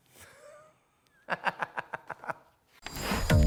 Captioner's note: laughing